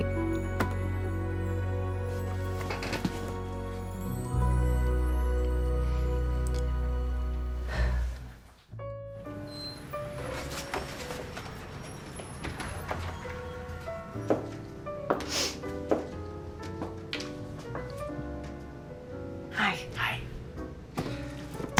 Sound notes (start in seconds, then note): 7.6 sighs; 10.0 jazzy music